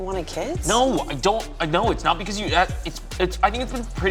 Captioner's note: stammering